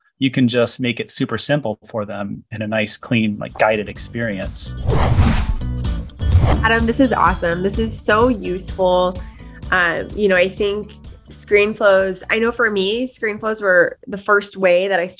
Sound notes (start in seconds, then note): 3.4 upbeat music; 4.7 whooshing